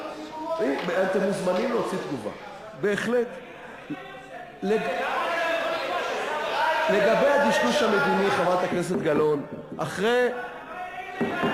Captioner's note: more shouting